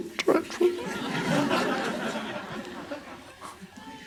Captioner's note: crowd laughs